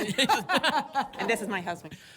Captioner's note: laughter